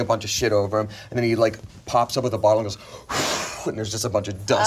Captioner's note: blows